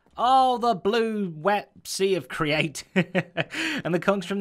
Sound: chuckles

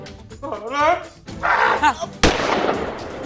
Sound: gun firing

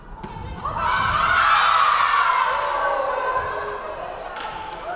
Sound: crowd cheering

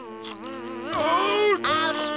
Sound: groaning

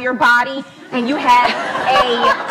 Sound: laughs

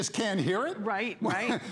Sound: laughter

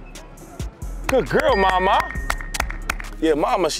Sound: bell dings

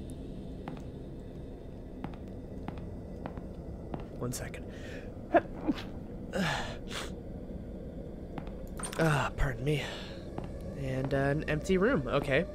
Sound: sneezes

